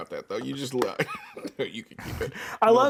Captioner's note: laughs